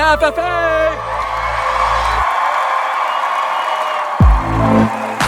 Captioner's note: crowd cheering